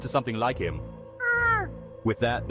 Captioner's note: grrrr!